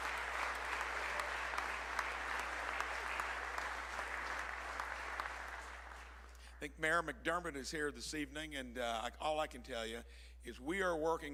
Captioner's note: applause